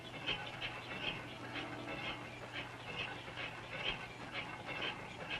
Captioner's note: miller grinding